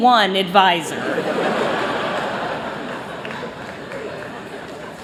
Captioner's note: laughter